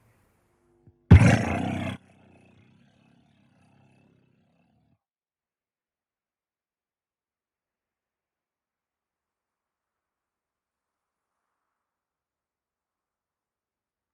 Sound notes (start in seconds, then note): 1.1 loud rattling